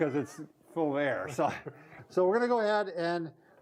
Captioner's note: both laughing